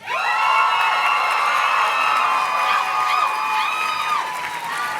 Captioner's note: audience cheers and claps